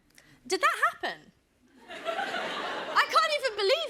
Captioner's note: laughter